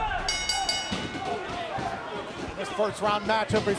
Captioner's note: bell ringing